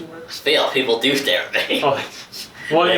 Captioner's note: laughs; both laughing